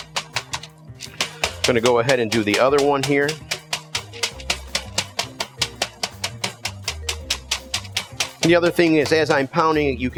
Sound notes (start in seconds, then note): 3.6 bright music; 3.6 mallet banging